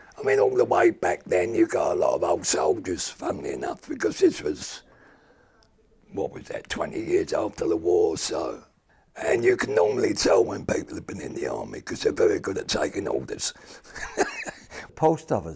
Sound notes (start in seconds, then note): 13.8 he chuckles